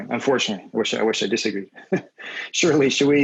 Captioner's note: laughs